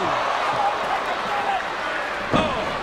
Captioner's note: ref yelling